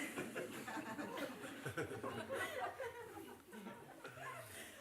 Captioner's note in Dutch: gelach